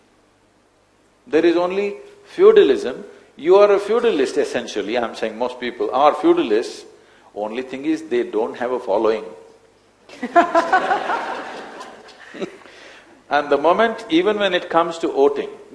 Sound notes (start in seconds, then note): 10.1 laughter